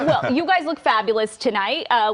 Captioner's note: laughter